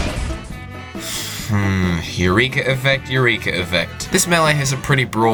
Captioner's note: annoyed sigh